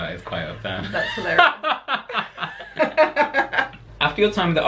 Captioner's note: laughter